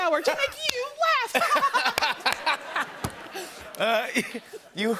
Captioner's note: laughter